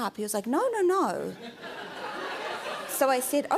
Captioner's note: laughter